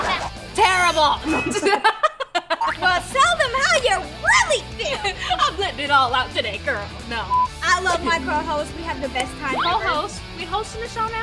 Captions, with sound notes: Terrible. [laughing] Well tell them how you really feel. I'm letting it all out today, girl. No, I'm just kidding. I love my co-host. We have the best time ever. Co-host? We hosting a show now?